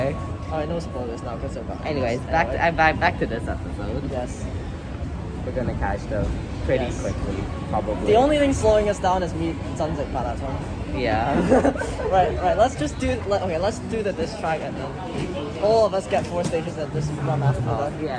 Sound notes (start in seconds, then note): 9.5 in cantonese